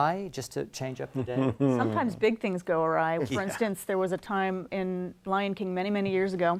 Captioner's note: laugh